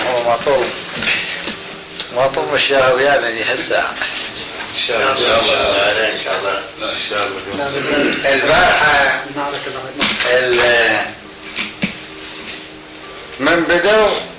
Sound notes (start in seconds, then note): 4.5 background talk and loud laughter